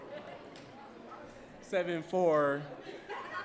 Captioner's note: audience laughs